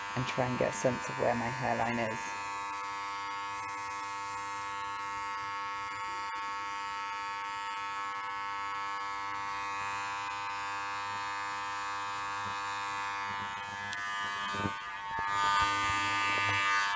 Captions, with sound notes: and try and get a sense of where my hairline is [INTERFERENCE]